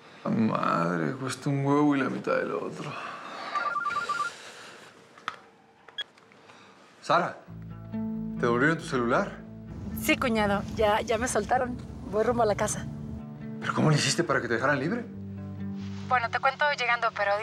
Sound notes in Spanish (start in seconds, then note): 3.5 suena el celular